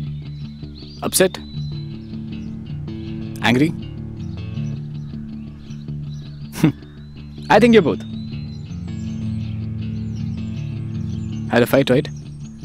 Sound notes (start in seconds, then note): 6.5 chuckles